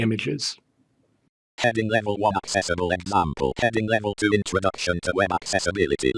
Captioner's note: screen Reader Voice